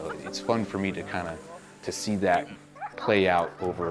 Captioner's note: dog whimpers and whines